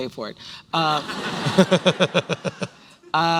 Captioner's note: laughter